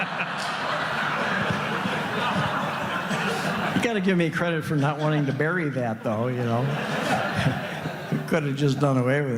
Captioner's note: laughter